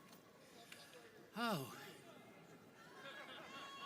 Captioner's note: sighs; audience laughing